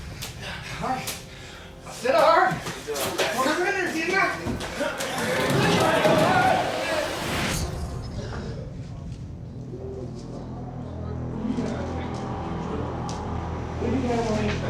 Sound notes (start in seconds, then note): 0.2 grunting; 1.9 indistinct chatter; 5.1 screaming, grunting; 10.7 foreboding music playing